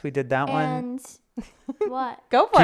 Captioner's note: chuckling